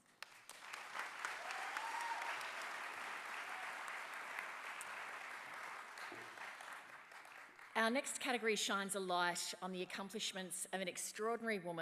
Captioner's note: applause